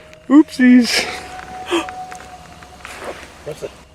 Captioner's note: animal howling; gasping